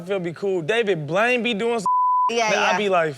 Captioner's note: beep